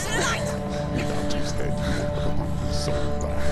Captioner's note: indistinct chatter